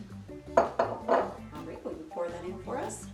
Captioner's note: upbeat music; glass thuds